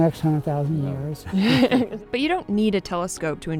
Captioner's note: Jacob and Aislinn laughing